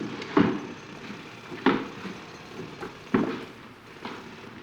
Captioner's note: jackhammer drilling